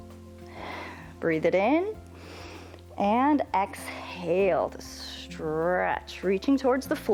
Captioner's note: inhales